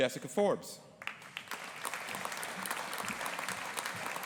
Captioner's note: audience applauding